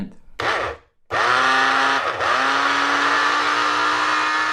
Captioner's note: blender whirring